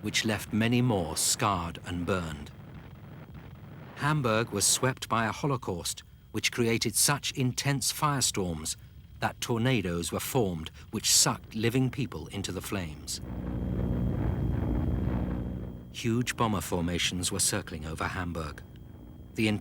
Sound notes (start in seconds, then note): 13.0 engines roaring